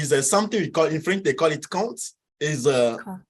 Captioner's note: speaks in foreign language